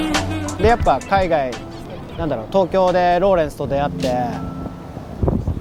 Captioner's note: speaking in foreign language